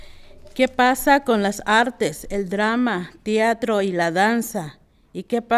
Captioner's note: speaking in foreign language